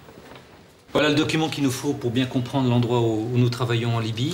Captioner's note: French spoken audio